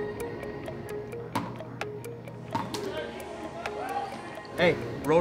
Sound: ball bounces

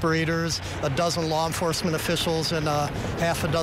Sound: nats/fire engine

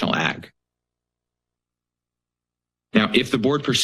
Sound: pause

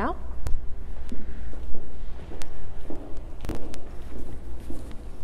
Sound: footsteps

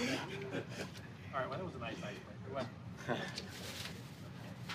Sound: laughter

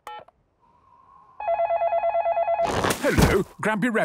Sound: dial tones beeping; phone ringing

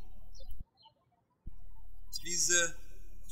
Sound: birds chirping

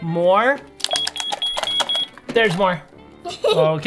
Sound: scanner beeping

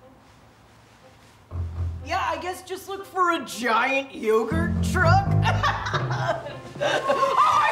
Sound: laughs

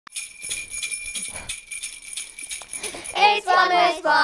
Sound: bells jingling

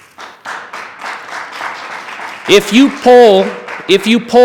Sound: attendees clapping

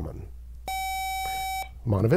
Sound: buzzer

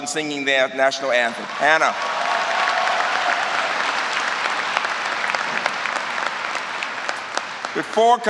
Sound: applause

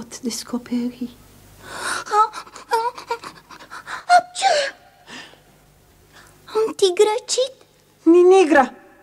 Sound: sneezes

